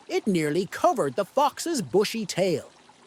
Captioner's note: none